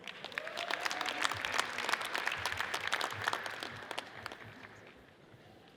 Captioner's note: audience cheers and applauds